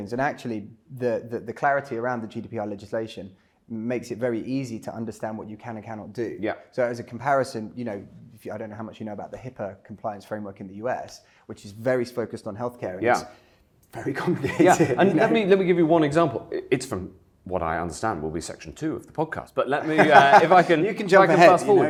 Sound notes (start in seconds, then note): 14.2 chuckling; 19.8 laughing